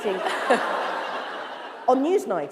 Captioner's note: laughter